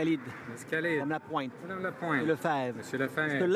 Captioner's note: applause